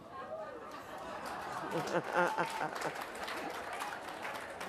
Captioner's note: applause